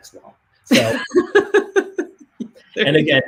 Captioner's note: laughs